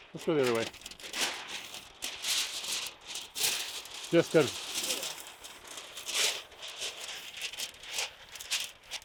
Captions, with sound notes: This go the other way. (paper crunching) Distance.